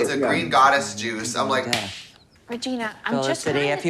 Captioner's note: claps